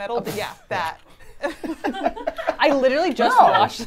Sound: everyone laughs

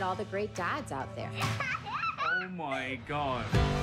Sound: girls laughing

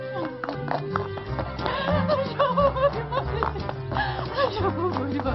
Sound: cries

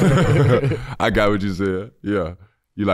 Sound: chuckle

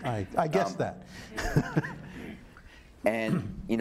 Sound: laughing

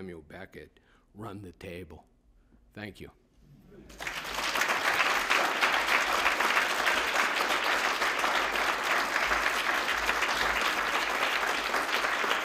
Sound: applause

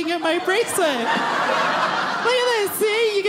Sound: audience laughing

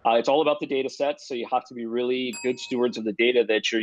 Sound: bell dings

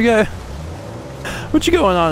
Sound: laughs

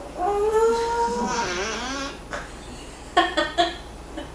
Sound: fart♥

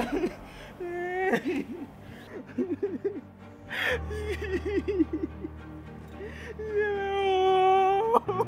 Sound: crying

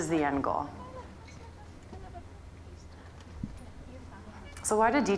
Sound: audience mumbling

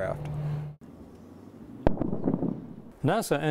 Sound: sound of jet flying overhead and loud sonic boom

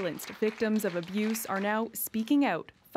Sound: applause

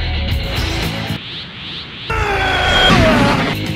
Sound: DBZ Aura sound

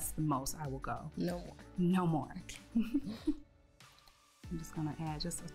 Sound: both laughing

